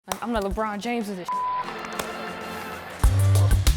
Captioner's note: beep; organ music; pop music